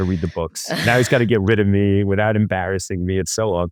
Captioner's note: laughs